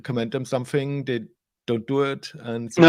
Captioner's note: laughing